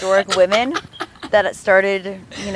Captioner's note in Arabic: يضحك